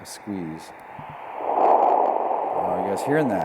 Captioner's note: electronc static